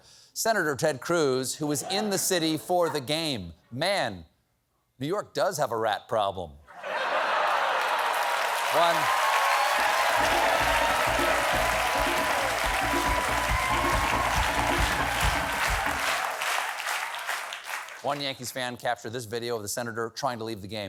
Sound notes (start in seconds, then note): 6.7 laughter